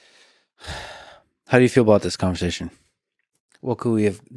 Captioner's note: sighs